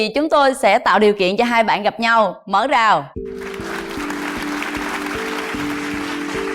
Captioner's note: applause